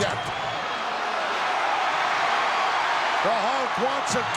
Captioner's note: audience cheering